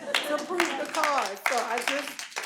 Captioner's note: audience applauding